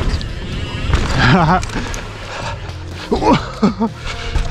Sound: laughs

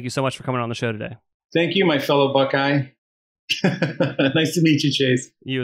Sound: laughs

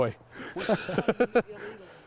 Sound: the guys laugh

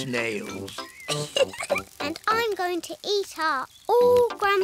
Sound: laughs

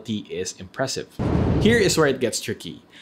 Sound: air whooshing sound effect

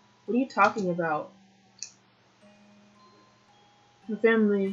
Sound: none

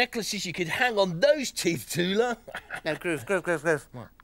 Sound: chuckles

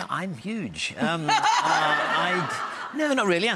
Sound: laughing

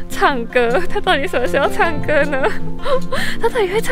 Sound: laughing

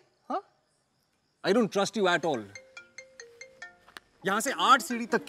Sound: cell phone ringing

